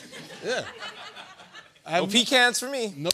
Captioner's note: laughter